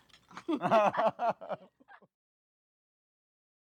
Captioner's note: both laughing